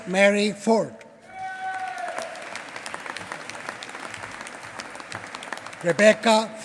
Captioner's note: applause